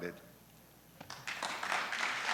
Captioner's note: applause